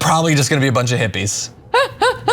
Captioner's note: laugh